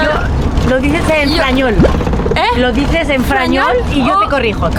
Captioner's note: french + Spanish mix